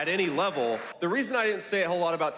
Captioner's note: applause; cheering